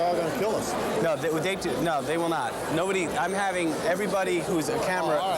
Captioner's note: stutters